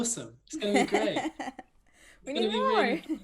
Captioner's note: laugh